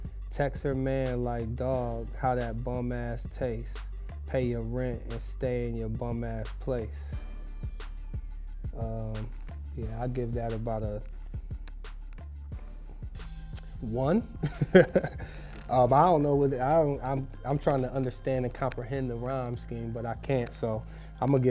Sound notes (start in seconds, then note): 14.4 laughs; 16.7 stammering